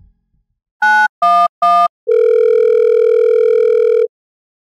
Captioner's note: phone dialing, ringing